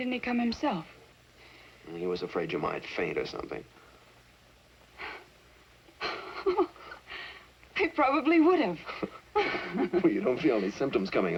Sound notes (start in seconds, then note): 1.9 sighs; 5.6 laughs